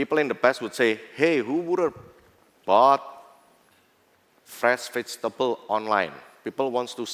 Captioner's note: non-english